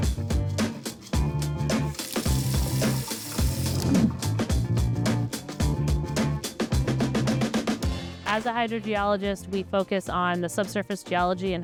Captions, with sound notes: (faucet whooshes) (air whooshes) (poised music) - As a hydrogeologist, we focus on the subsurface geology